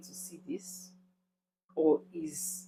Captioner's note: paause